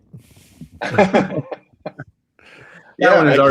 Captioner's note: laughter